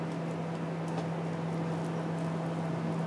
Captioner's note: whirching in the background